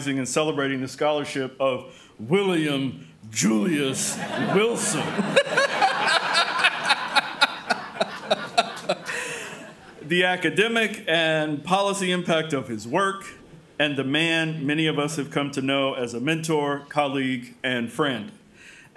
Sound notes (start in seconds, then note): 3.9 crowd laughing